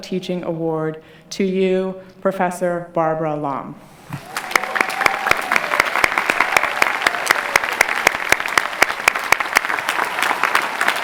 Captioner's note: clapping